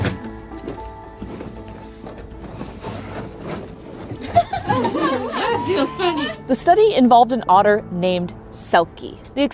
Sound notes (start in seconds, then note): 0.0 background music; 4.2 people laughing